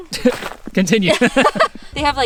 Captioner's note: laughs